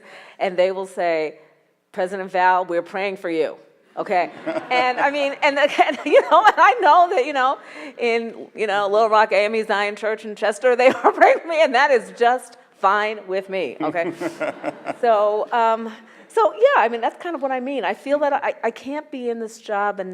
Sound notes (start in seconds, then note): 13.9 audience laughs